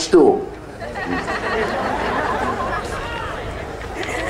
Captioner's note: audience laughs